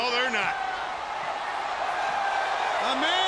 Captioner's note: audience cheering